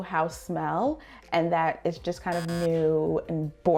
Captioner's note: buzzer buzzing